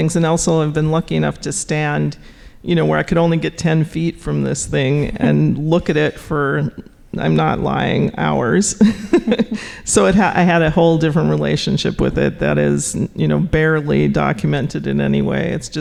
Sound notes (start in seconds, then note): 8.7 laughing